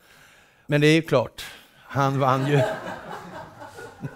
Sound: laughter

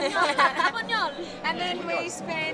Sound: laughing

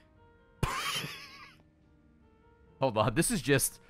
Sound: laughs

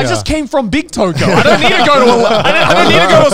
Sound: laughing

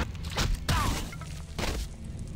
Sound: thud

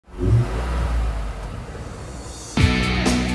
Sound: engine revving; rock music

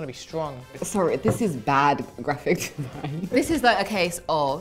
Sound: laughs

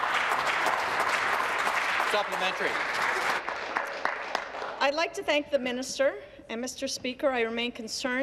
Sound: applause

